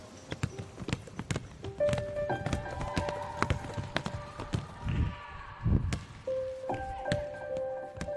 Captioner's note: sample 2: The sound of playing basketball